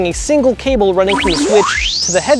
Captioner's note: electronic beeps